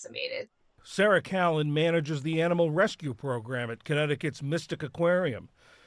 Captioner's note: voice-over